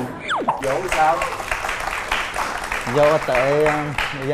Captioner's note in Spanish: Aplaudir